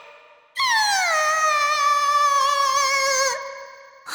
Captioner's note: sob